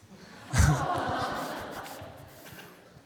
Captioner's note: aww